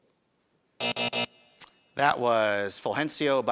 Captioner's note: buzzing